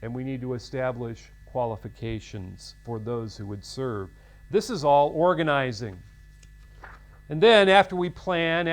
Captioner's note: paper rustles